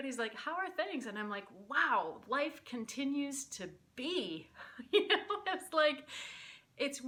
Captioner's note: laughter